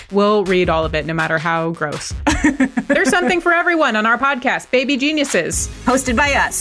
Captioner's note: laughs